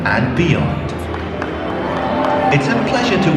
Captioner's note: scattered applause